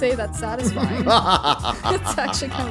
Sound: DJ laughing

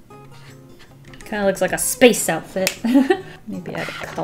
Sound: laughs

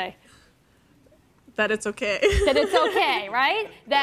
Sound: chuckles

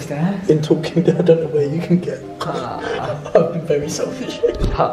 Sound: laughing

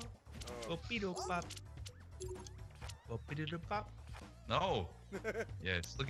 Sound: laugh

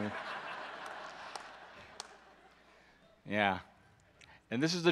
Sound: audience laughs

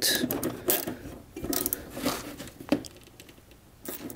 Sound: nuts turning

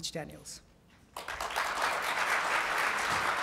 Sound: applause

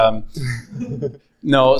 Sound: audience laughs

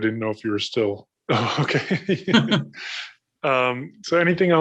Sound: laughs

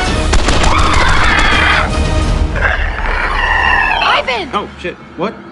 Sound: screaches

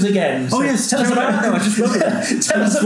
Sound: laughs

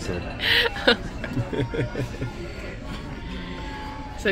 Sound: both laughing

